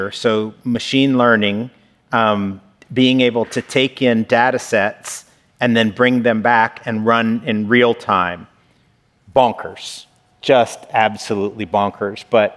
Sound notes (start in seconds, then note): none